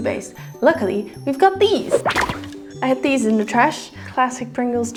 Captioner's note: magic